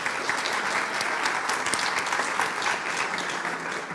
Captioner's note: applauds